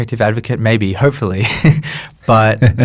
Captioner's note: chuckles